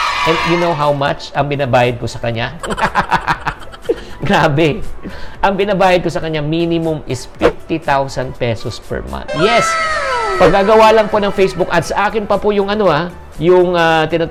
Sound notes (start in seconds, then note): 2.6 laughs